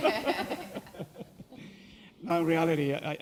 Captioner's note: chuckle